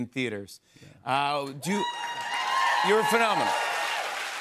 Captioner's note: cheers and applause